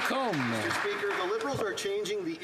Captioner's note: applause